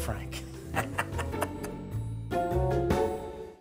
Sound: laughing

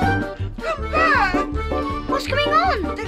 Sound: none

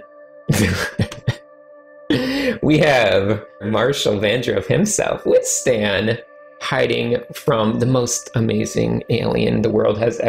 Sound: chuckles

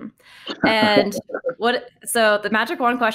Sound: laughter

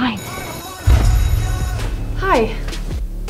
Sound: school bell

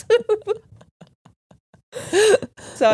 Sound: both laugh

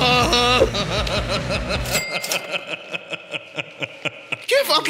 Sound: laughter

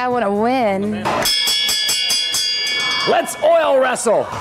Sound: bell ringing

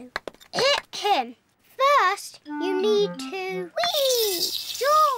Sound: clears throat

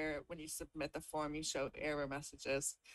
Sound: none

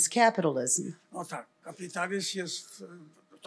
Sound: foreign language

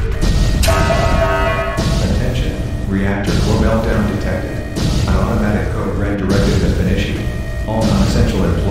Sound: announcement Chime

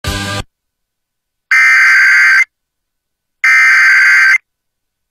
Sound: SAME header tones

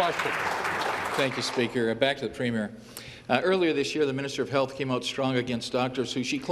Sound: some Applause

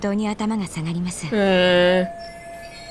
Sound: makes doubting noise

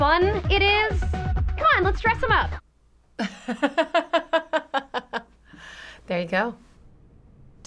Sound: laughs

